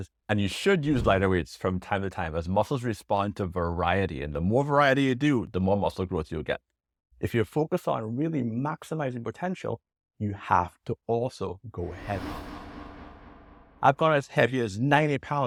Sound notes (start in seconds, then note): 11.8 air whooshes